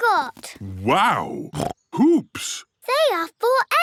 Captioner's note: snorts